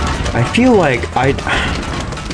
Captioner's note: exhales Oxygen